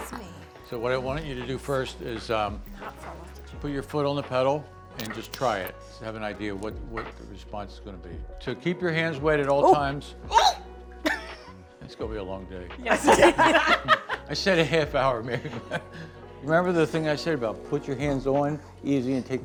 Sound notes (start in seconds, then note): 9.8 attendees squealing; 11.0 chuckling; 13.0 group chuckling; 15.7 chuckling